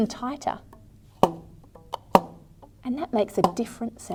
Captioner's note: sounds of a rubber band being plucked can be heard